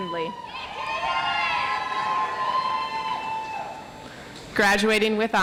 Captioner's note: audience applauds